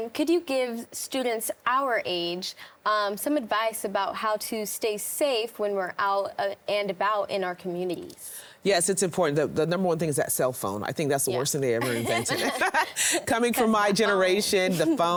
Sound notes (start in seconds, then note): 11.8 laughs